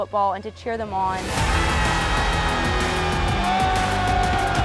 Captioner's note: group cheering